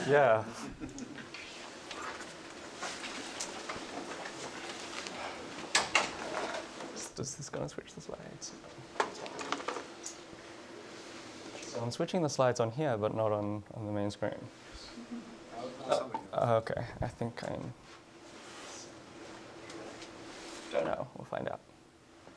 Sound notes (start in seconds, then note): 4.9 indistinct conversation; 8.6 indistinct conversation; 17.8 indistinct conversation